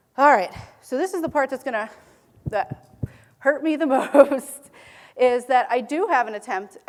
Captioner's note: laughing